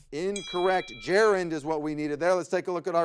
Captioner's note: timer dings